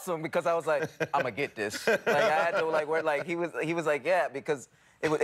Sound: laughter

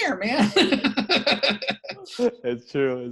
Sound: laughing

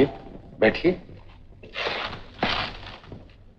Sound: shoes squeaking

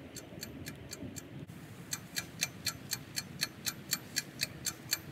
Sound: louder ticking; loud ticking

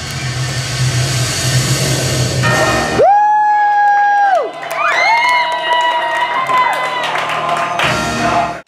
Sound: cheers

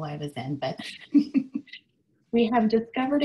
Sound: laughing

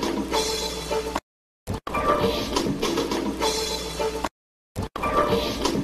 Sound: whooshing and music continuing

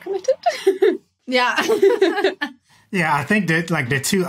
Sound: both giggling

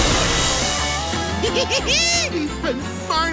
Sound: giggling

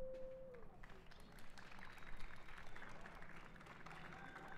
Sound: cheers and applause

